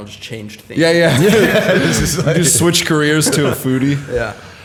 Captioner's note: chuckle